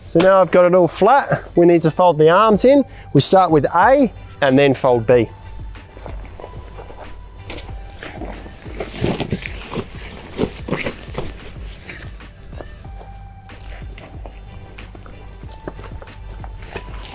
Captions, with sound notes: So now I've got a little flat, we need to fold the arms in. We start with A and then fold B. (joyful and energetic music) (tent rustling)